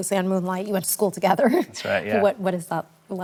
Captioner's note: laughs